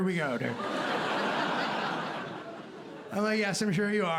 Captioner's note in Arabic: ضحك